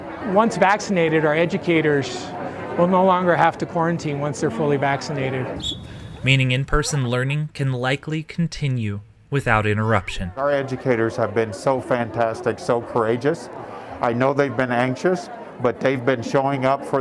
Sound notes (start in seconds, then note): 5.6 whistle blows